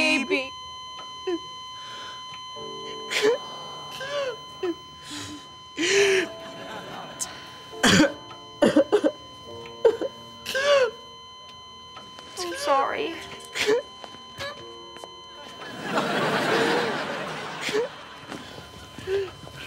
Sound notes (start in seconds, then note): 0.3 beeping, crying; 12.3 crying, beeping